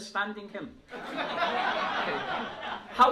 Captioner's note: laughter